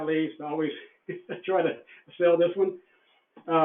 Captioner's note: laughs